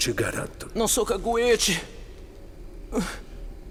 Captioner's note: whimpering